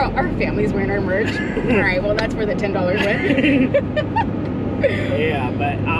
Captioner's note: both laugh